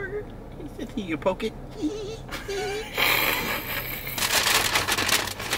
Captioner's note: chortling